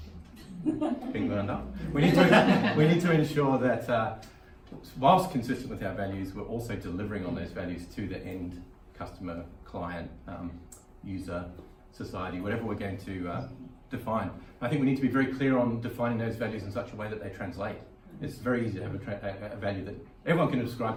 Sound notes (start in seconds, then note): 1.8 laughing